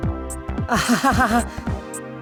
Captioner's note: awkward laugh